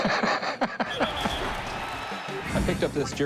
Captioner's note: laughing; whistle blows, crowd noise